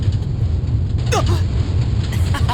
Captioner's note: chuckle; gasp; laugh